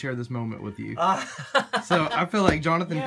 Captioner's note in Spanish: risa